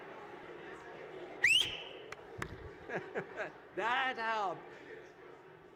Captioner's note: loud whistle